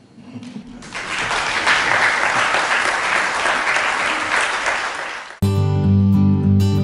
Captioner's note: applause